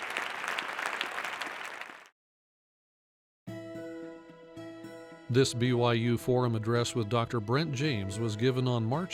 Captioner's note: applause